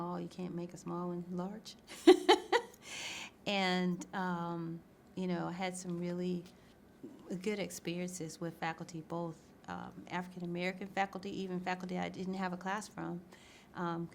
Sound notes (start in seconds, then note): 2.0 laughs